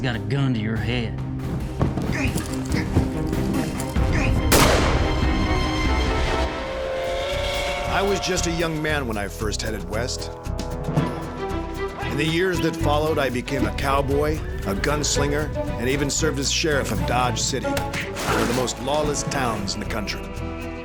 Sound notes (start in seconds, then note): 4.5 gunshot; 6.4 train whistle